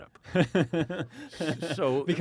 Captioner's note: laughing